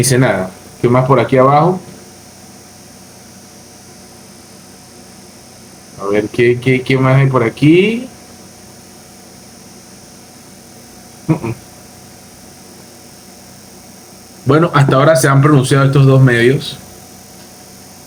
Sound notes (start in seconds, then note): 8.0 laughs